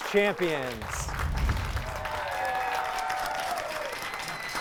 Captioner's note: applause